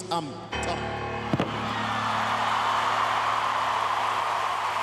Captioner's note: crowd cheering